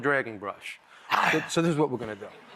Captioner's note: growls